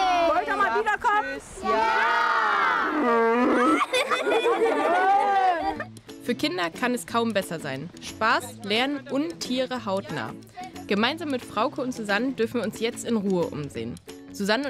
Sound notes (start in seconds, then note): 2.7 the children laugh; 3.0 A cow moos